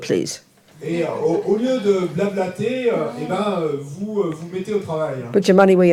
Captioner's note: French